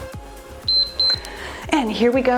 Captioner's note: timer beeps